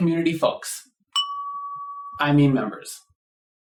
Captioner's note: ding!